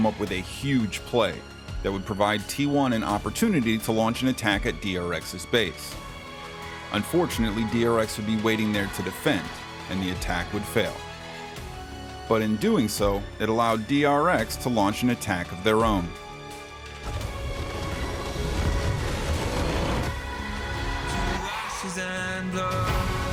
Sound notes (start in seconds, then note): 17.0 escalating noise of a Nexus being destroyed